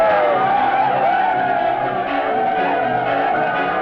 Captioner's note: men shouting